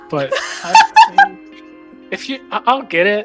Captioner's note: laughs